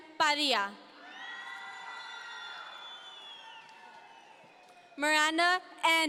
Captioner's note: audience members cheer